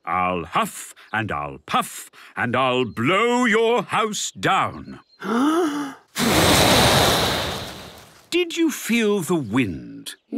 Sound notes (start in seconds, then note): 5.3 inhaling deeply; 6.1 blowing